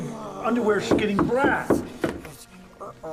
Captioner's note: knock at door